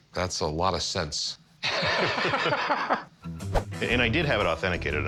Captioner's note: laughter